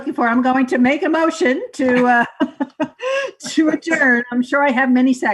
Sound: laughing

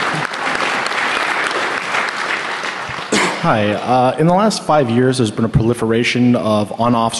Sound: applause

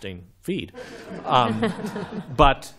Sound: laughter

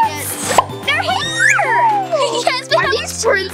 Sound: pop

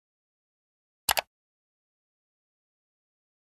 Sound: mouse clicking sounds

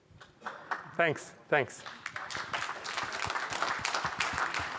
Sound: applause

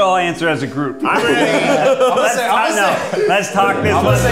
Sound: laughing

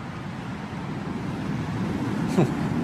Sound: heavy Wind Sound

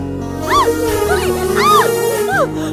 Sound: screaming

